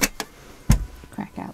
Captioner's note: hinge creaks